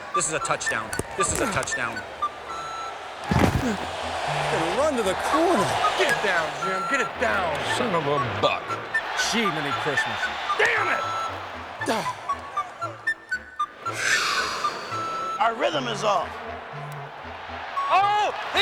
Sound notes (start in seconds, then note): 12.3 groans; 13.7 sighs